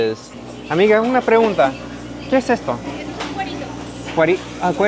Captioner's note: speaking Spanish